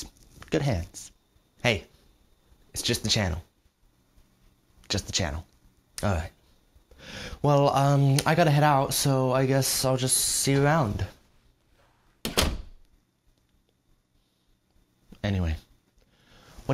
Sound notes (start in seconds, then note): 12.2 door closes